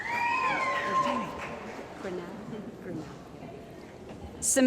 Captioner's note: cheering & Applause